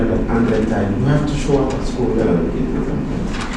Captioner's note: paper Flipping